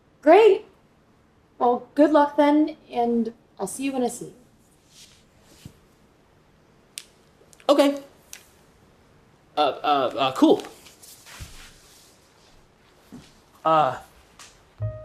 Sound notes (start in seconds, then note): none